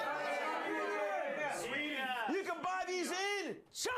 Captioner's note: audience shouts answers